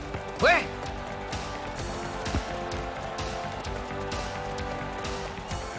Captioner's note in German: beifall